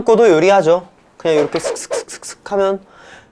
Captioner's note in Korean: 슥슥슥슥